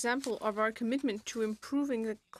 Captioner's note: speaking French